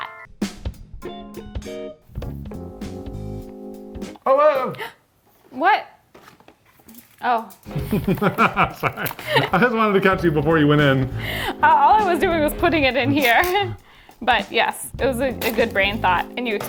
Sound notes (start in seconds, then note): 0.3 upbeat music; 7.7 laughs